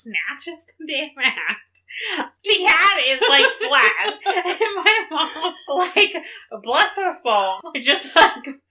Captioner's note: laughs